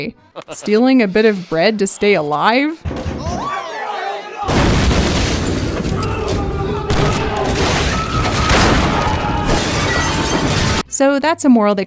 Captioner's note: gunshots and screaming